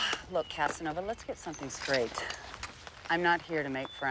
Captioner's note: sighs